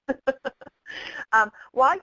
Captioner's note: laughter